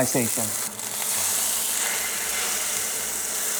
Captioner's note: sizzling sound